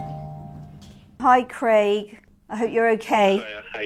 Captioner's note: phone ringing